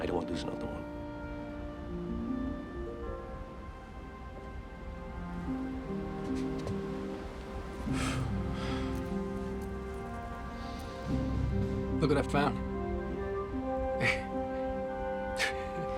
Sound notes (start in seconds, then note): 7.8 sighs; 13.7 laughs